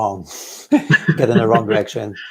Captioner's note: both laughing